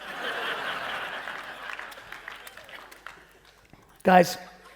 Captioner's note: audience laughing